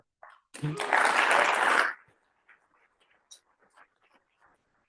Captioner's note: applause